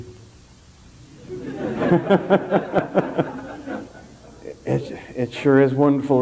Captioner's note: general laughter